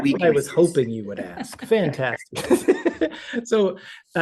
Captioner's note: laughs